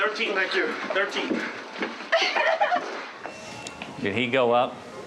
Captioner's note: crying